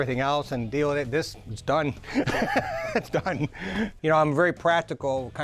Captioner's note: laughing